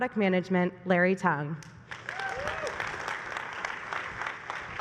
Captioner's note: applause